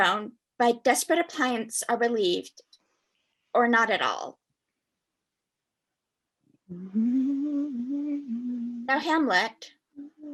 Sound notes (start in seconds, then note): 6.6 gently humming